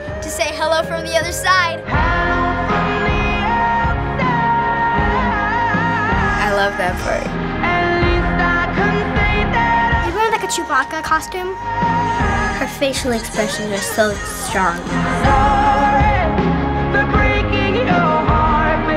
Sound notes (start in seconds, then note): 1.9 soulfully